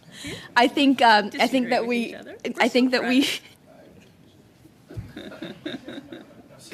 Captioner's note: laughter